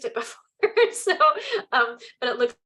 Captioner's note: chuckles